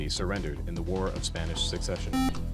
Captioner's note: buzzer